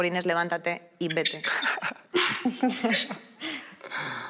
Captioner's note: laughter